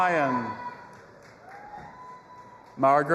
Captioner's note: audience applauding and cheering